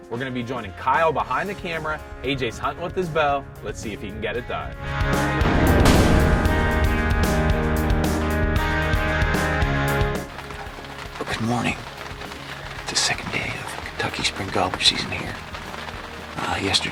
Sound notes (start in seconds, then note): 5.3 upbeat music; 8.8 rain hitting tarp